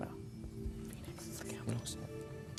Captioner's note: beeping